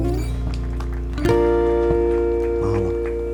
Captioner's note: applause